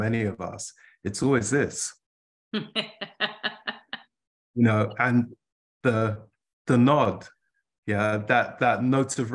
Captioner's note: laughter